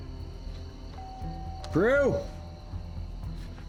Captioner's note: rings doorbell